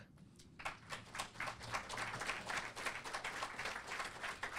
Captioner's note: audience applauding